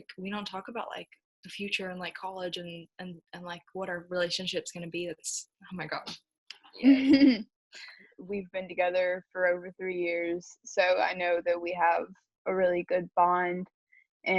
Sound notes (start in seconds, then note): 6.8 chuckles